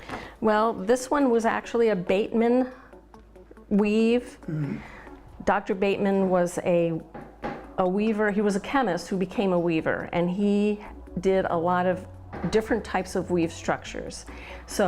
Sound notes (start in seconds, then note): 7.0 banging